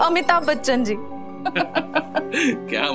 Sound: laughs

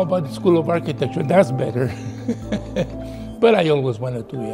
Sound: laughs

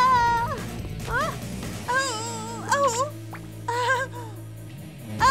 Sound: screams

